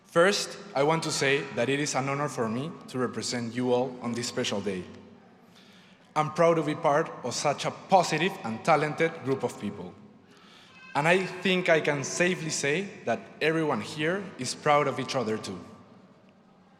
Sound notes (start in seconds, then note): none